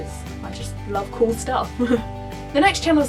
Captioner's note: laughs